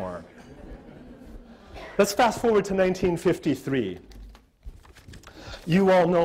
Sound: audience laughter

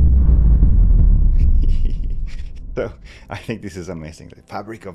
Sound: percussive rumbling

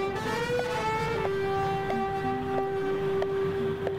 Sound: footsteps & Humming

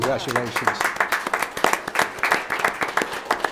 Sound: applause

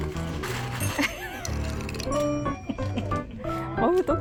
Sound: laughing

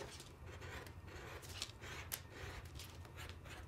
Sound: knife scratching

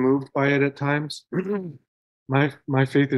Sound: clearing throat

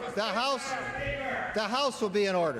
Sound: yelling from audience

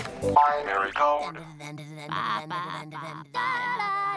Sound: vocalizing

